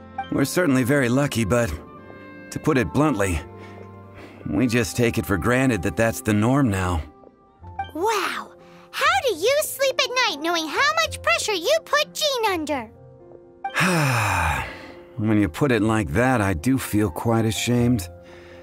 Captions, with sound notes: We're certainly very lucky, but... to put it bluntly, we just take it for granted that that's the norm now. Wow... How do you sleep at night knowing how much pressure you put Jean under? *sigh* When you put it like that I do feel quite ashamed...